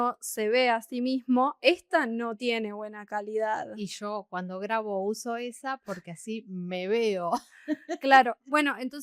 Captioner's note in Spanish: risas